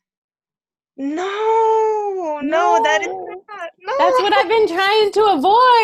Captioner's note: laughter